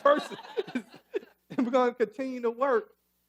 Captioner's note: laughing